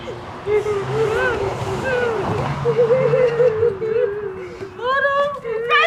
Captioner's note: crying